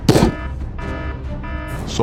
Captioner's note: thud; alert sounds